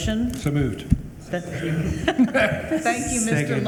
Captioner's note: regents laugh